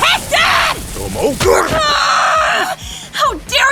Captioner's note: grunts; Tomo growls